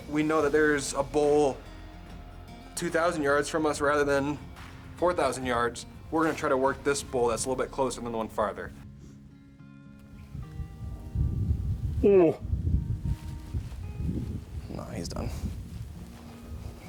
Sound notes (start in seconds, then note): 10.8 gentle music; 12.9 moose calling; 14.3 gentle music